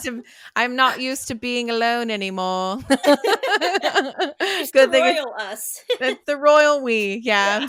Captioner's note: in bad British accent; in bad British accent